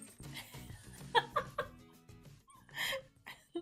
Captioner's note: laughs